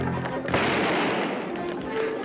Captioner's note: gun firing